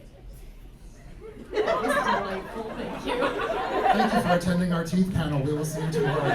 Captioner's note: quiet chanting "teeth teeth teeth"